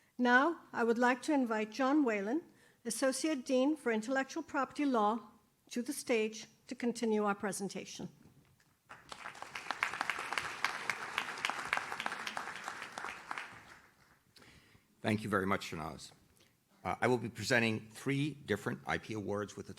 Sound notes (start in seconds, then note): 8.8 audience claps